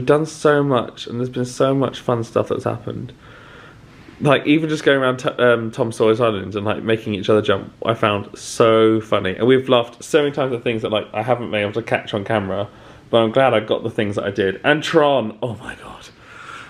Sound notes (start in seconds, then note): none